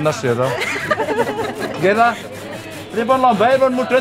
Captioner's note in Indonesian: tertawa